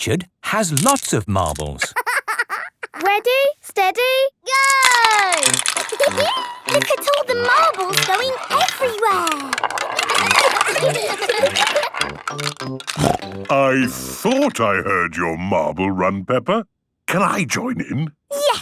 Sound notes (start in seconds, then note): 1.8 laughing; 6.2 laughing; 10.4 laughter; 11.3 snorting